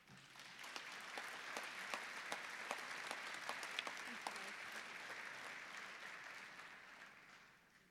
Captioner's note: applause